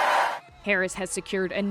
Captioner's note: cheering